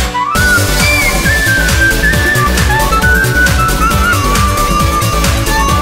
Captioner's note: damaged tires and lights on cobblestones